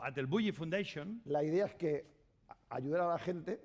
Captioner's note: speaking spanish